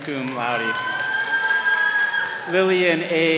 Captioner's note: all cheering